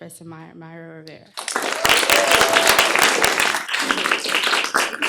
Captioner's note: applause, cheering